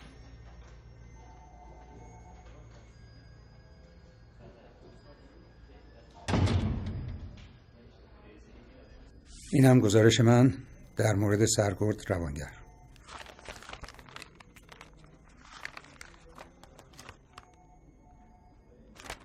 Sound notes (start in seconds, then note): 6.2 door slamming; 15.6 paper rustling